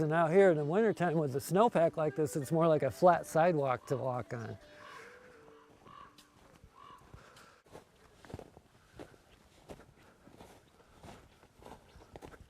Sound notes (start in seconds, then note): 8.0 snow crunching